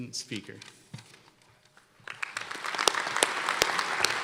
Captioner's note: applause